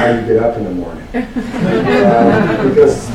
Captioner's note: laughter